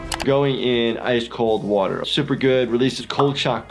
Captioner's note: none